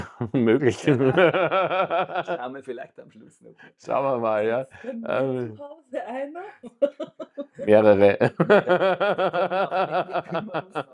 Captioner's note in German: gelächter